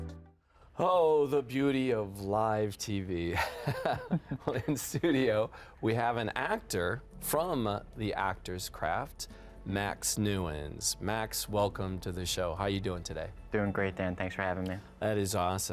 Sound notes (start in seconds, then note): 3.3 chuckles